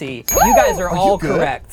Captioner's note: bell dings